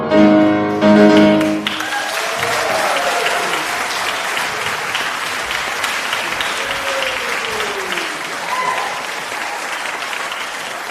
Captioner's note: applause